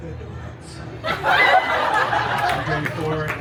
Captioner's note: guests laughing